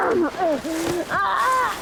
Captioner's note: Promise grunts